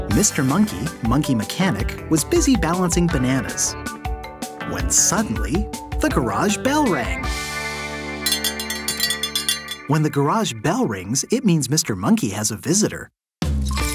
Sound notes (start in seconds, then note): 8.2 bell ringing